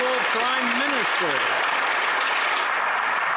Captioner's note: some Applause